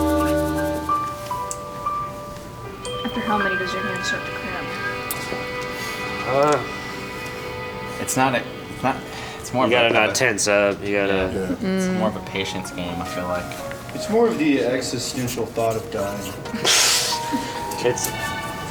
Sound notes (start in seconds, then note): 16.5 laughing